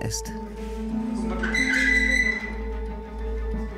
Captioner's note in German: Der Stuhl quietscht